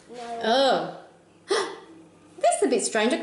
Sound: gasps

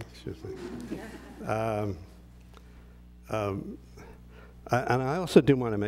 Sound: laugh

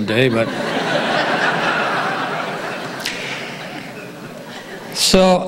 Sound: audience laughing

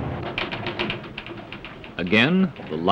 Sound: keys clacking

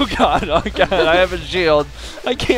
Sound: laughs

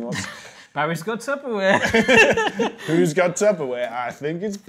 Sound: laughs

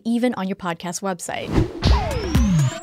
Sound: air whooshing; upbeat music

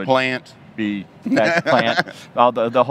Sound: laughs

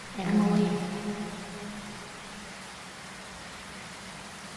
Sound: distorted voice

